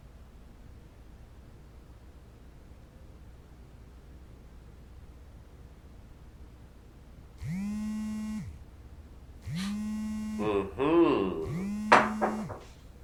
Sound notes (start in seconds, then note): 7.6 phone vibrates; 10.4 murmurs happily upon seeing caller